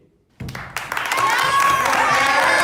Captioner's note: cheering